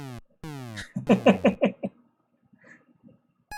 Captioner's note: chuckles